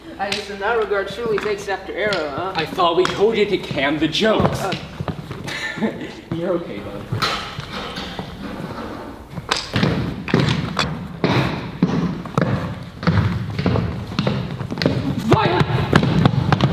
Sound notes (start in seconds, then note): 7.1 door opens